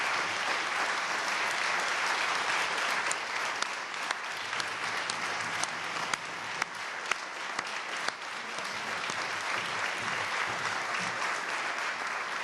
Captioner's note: applause